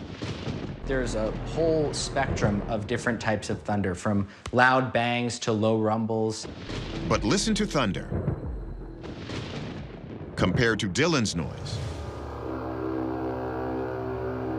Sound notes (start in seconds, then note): 8.2 thunder rumbles; 11.8 horn-like sound